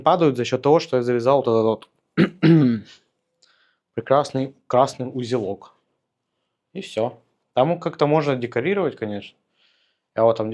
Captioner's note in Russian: откашливается